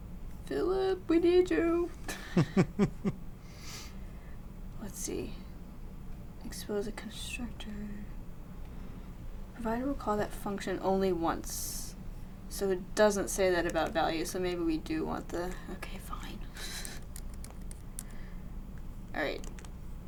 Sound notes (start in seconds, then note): 2.1 laughs